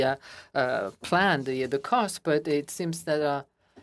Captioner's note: speaking in French